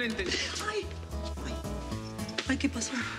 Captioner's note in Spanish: ruido al entrar